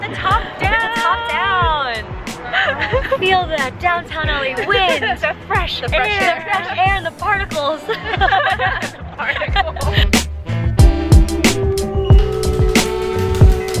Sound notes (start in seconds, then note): 7.8 laughing; 11.2 r&b music